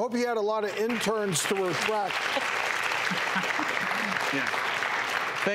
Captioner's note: clapping